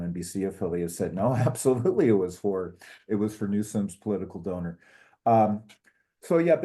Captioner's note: laugh